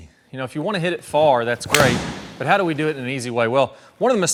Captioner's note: golf club smacks